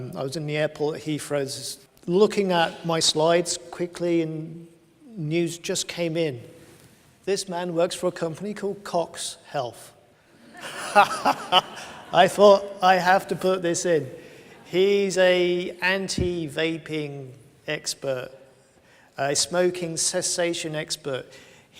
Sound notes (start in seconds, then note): 10.5 laughs